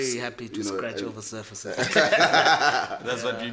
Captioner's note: laughs